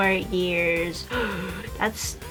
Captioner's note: audible gasp